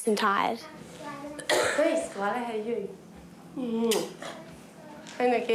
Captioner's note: coughs